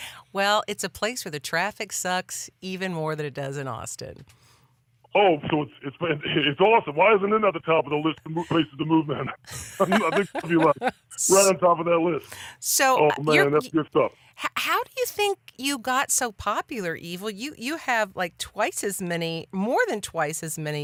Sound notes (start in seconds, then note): 9.4 laughs